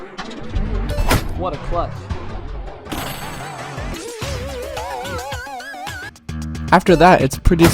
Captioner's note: laughing